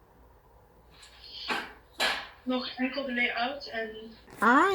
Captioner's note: sound of a book slamming shut & then Flemish